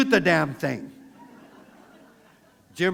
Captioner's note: laughter